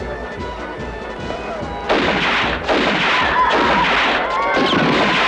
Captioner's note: guns firing